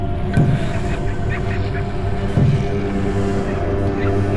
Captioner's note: low slow thudding